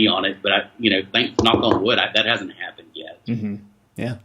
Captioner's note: knocking